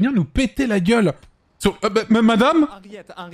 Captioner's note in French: il balbutie